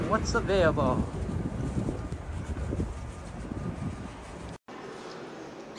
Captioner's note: wind noise